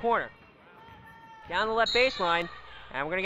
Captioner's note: whistle blows